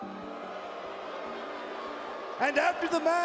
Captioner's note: crowd booing